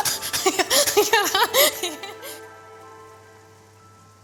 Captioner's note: laughing